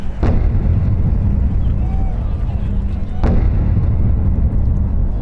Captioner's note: fireworks bursting